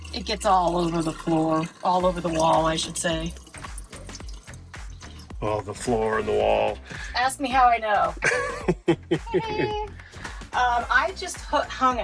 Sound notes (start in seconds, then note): 4.0 water trickling; 8.2 laughing